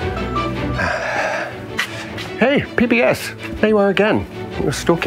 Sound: bright music continues; sighs

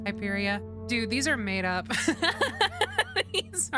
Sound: laughter

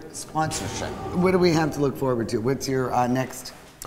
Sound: haunting sound

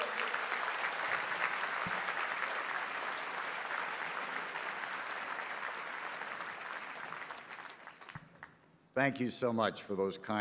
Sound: applause

